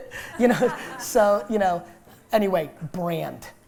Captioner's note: laughter